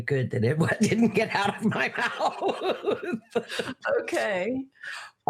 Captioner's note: laughing